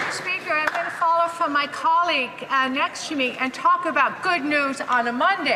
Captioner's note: some Applause